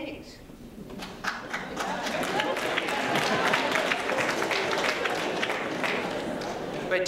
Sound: applause

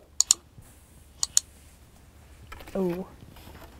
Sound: mouse clicks

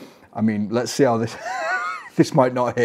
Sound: laughs

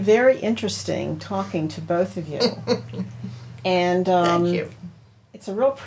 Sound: laughs

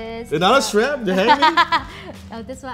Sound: laughs

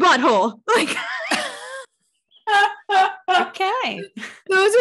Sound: both laughing

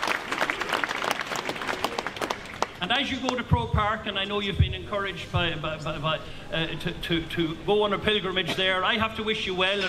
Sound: applause

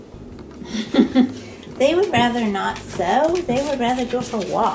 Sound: laughs

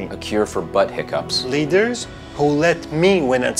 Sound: none

